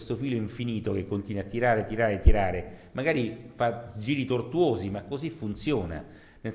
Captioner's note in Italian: none